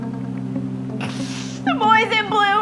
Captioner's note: sniffing